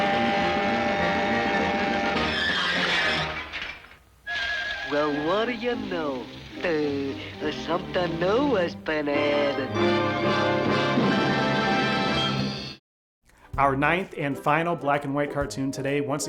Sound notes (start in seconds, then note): 4.4 water splashing; 10.5 triumphant music